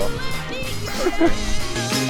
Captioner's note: heh heh heh